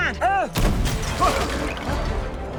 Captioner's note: yells; gunshot